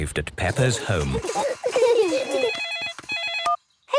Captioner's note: giggling; phone ringing